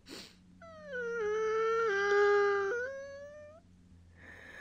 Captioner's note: poorly contained laughter; Unhappy Goblin Sounds; deep Breath